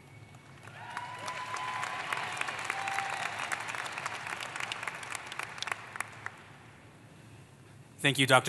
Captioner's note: applause